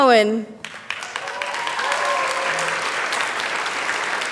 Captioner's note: applause